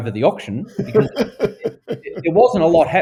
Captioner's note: laughing